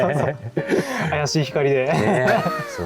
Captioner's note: laughs